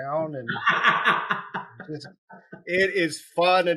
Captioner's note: laughing